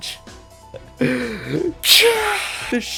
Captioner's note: chuckle